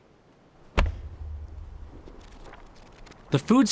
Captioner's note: book thumps